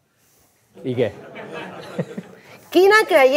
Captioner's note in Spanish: risas